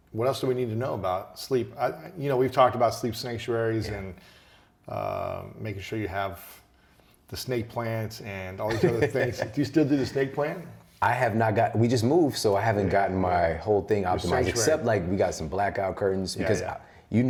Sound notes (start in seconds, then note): 8.6 laughs